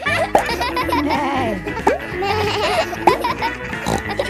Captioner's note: bleats; neighs